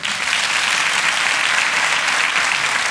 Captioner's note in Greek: θερμό χειροκρότημα